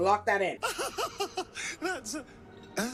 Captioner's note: man laughing